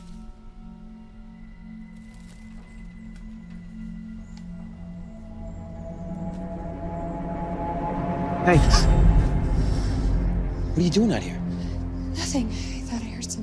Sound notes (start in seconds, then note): 0.3 ominous music; 8.4 Jackie gasps